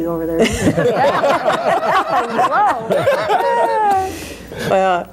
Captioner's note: all laugh